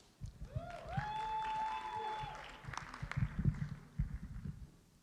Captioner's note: cheering